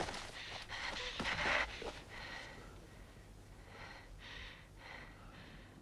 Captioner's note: Hundra breathing heavily